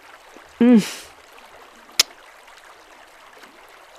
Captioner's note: kiss